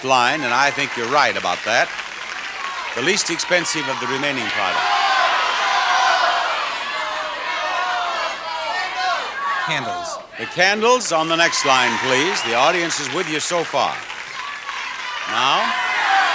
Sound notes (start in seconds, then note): 4.7 audience yells suggestions